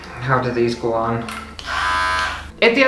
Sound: buzzz!

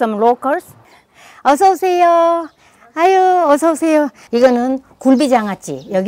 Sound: speaking foreign language

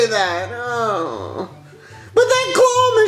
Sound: groans

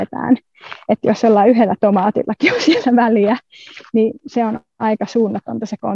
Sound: laughs

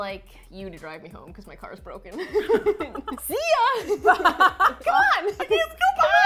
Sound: both laugh

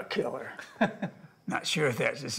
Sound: Thomas laughs

